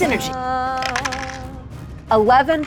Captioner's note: die rattles